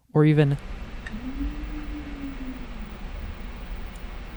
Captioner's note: Alpha 1200 stepper motors humming; lamp strikes and various HF ballast tones are audible